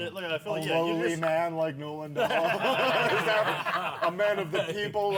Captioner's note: laughter